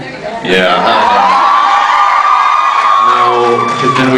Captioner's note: cheers